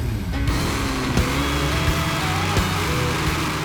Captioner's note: truck revving